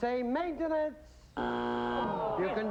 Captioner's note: buzzer